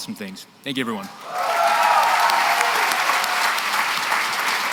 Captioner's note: cheering and applause